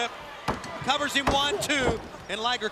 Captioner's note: hand pounding